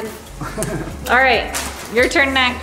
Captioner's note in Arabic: يضحك